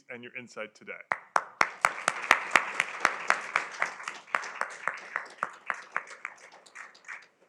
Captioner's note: applause